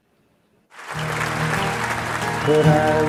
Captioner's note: crowd applauding